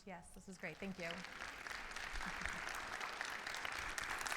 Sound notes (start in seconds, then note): 2.3 audience applauding